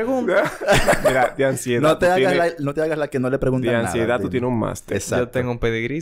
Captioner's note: laughs